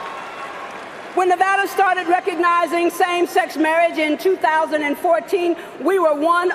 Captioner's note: cheering and applause